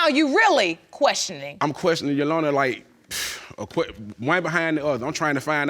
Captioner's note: sighs